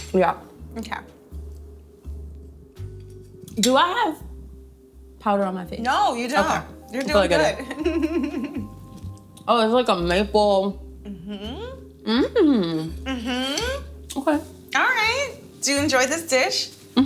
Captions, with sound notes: - Yeah. - Okay. - Do I have powder on my face? - No you don't. - Okay. - You're doing good (chuckles). - Oh, it's like a maple. - Mm-hm. - Mm-hm. - Mm-hm. - Okay. - All right. Do you enjoy this dish?